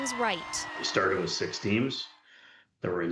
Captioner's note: cheers and applause